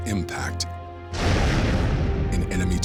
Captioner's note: plane exploding